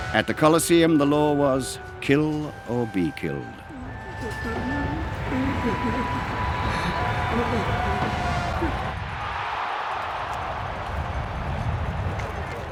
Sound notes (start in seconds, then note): 8.8 audience roaring